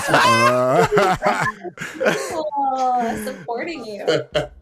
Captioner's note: all laughing